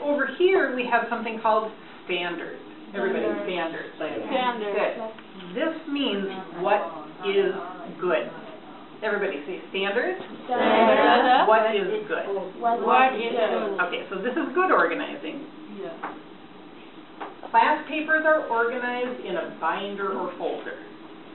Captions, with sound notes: Over here we have something called standards. Everybody, "standards". - [Voiceover] Standards. - Good. This means what is good. Everybody say "standards". - [Voiceover] Standards. - What is good. - [Voiceover] What is good. - Okay, so this is good organizing. Class papers are organized in a binder or folder.